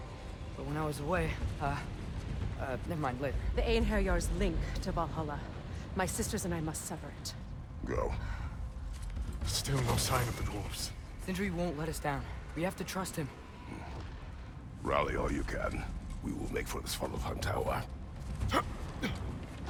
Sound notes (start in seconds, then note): 13.6 grunt